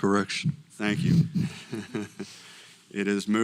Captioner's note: laugh